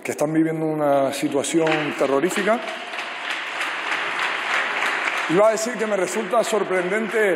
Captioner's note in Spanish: Aplausos